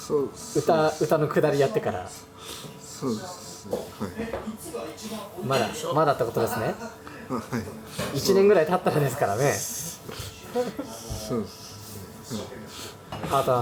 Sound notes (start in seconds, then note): 6.5 laughs; 9.7 laughs